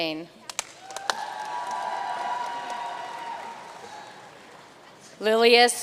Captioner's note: audience cheering and applauding